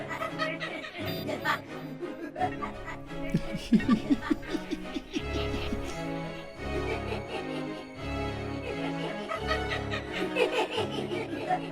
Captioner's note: evil laughing